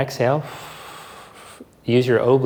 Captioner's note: exhales softly